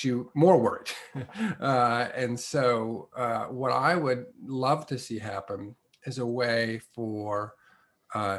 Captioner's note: laugh